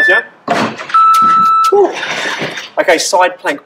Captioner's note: beep